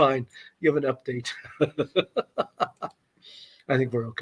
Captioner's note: laughter